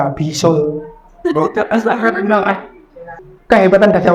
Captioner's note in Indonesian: Audiens tertawa